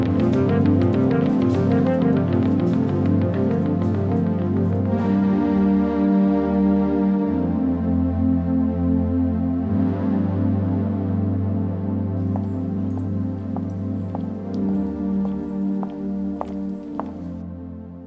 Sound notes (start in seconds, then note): 12.2 clicking heel footsteps